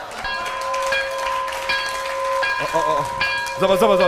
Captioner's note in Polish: Aplauz